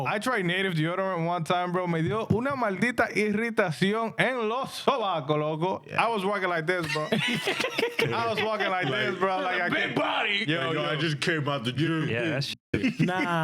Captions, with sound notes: I try native deodorant one time, bro. (Speaking In Spanish) I was walking like this, bro. (Laughing) I was walking like this, bro. Big body. Yo, yo, I just came out the gym. Yeah, that